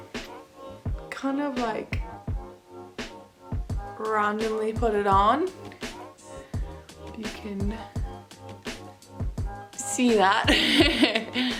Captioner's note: laughs